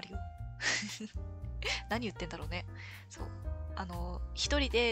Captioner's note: laughs